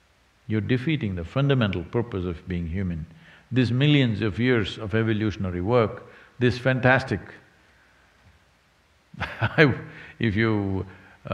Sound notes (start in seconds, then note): 9.2 laughs